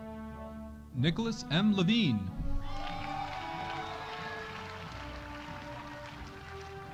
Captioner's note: audience applauding